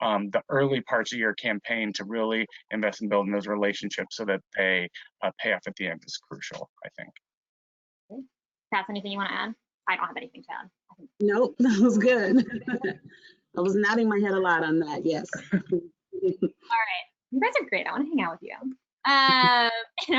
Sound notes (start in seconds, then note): 12.2 laughs